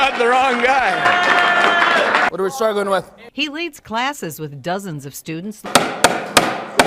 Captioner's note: applause